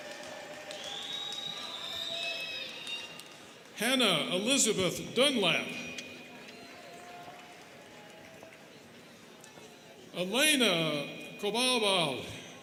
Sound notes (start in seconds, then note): 0.0 students cheering and clapping; 6.6 students clapping